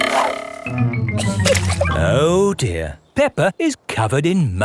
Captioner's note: chuckles